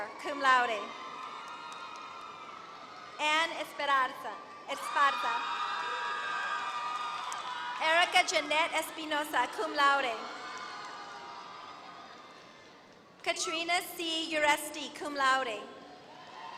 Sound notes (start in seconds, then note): 4.9 applause